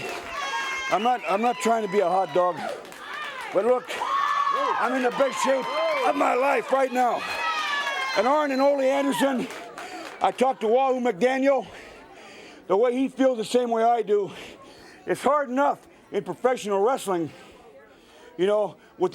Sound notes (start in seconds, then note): 0.3 crowd cheering; 2.7 crowd cheering; 10.1 crowd cheering; 14.2 crowd cheering